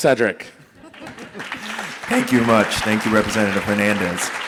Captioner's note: audience applauding